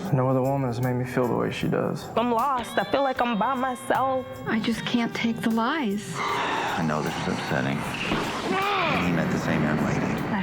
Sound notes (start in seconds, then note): 8.5 growling